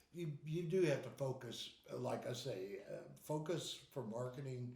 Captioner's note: none